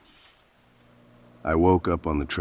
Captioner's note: sound: The roar of the rain fades into a low, warm hum. Peaceful